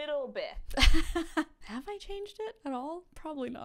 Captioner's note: laughs